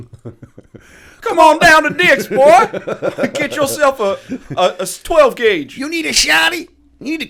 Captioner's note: laughter; chuckle; chuckle